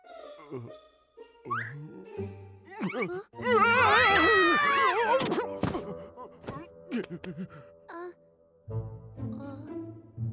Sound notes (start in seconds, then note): 3.4 screams; 3.5 exclaims in alarm